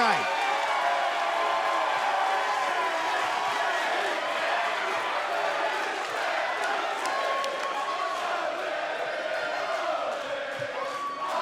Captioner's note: crowd cheering